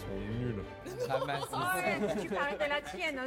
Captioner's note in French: rires